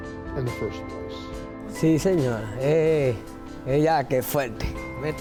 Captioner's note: speaking foreign language